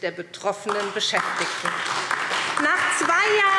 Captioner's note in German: Beifall SPD